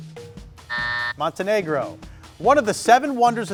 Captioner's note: timer buzzes